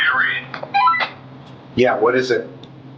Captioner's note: comm beeping